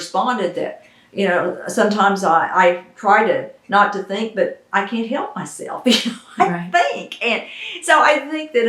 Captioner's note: laughs